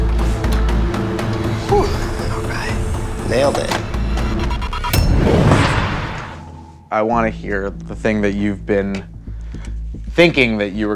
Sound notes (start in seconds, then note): 1.8 door closes; 6.1 horror music